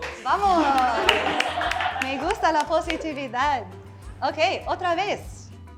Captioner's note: student speaks in Spanish language; speaks in Spanish language